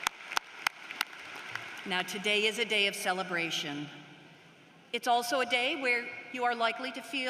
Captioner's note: applause